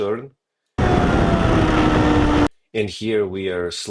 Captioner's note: tires screeching